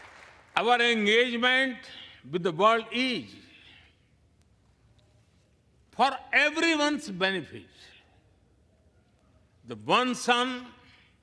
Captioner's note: applause